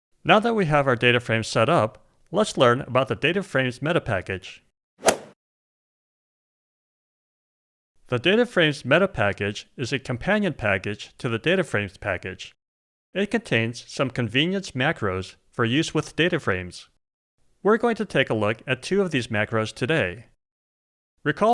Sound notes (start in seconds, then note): 5.0 golf swing sound effect